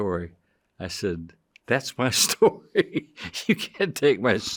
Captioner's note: chuckling